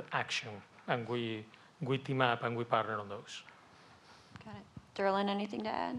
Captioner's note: speaking rapidly with heavy accent